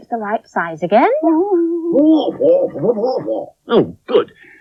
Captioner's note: Spencer Talks In Spider Language